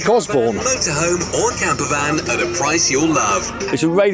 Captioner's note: Sound of commercial being played by Caravan radio